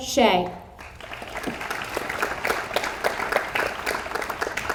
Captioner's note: audience applauds